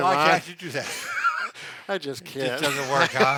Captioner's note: laughs